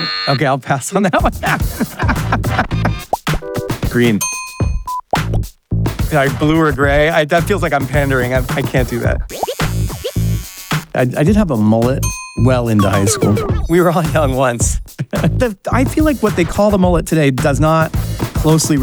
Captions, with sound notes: Okay, I'll pass on that one. (Laughing) Green. Blue or gray, that feels like I'm pandering. I can't do that. I did have a mullet well into high school. We were all young once. I feel like what they call the mullet today does not closely